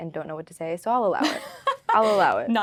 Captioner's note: laughing